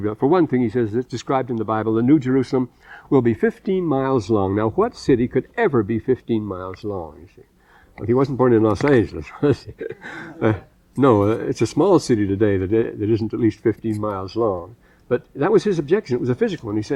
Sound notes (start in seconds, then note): 9.5 laughter